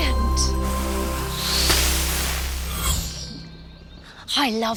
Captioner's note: magical whoosh